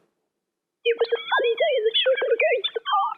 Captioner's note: sine-wave speech